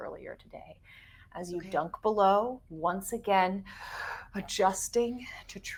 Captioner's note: deep inhaling